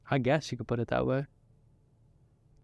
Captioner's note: none